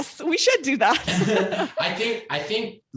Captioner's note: laughs